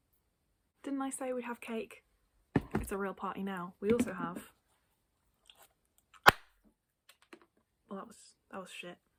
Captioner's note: pops party popper